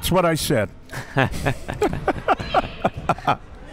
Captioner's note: laughs